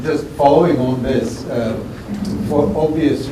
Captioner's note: background laughter